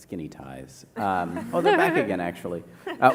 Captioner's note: laughter